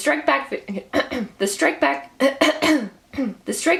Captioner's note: clears throat; clears throat